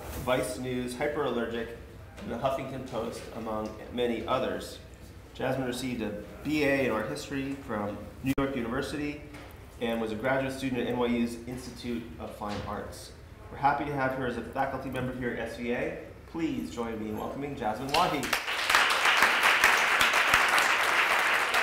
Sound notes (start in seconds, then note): 17.9 applause